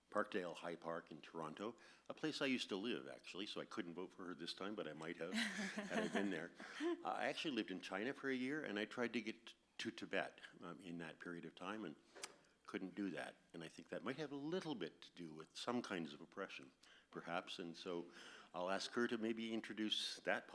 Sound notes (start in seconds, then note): 5.2 laughs; 12.1 clicks tongue